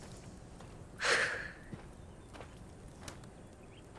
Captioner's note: sighs